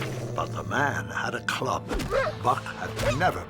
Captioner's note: Buck whimpering